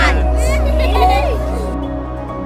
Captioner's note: cheering